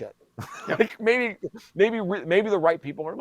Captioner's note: chuckles